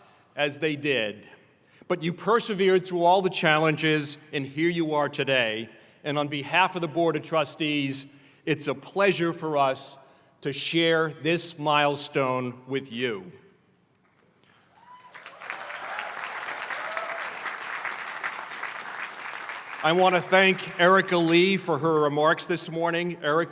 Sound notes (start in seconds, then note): 17.1 applause